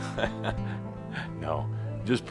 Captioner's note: chuckles